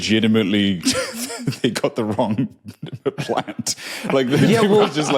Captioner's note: giggles